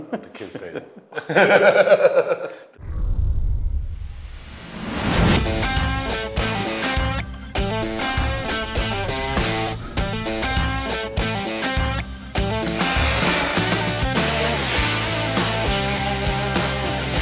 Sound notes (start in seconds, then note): 0.5 both laughing; 4.7 upbeat music